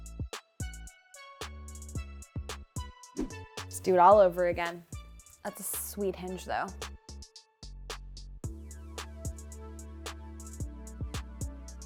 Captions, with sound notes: (air whooshes) Let's do it all over again. That's a sweet hinge, though. (upbeat pop music continues)